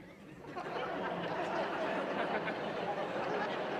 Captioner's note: laughter